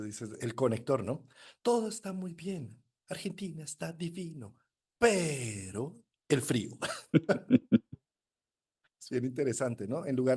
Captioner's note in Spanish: risas